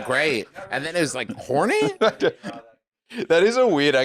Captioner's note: laughs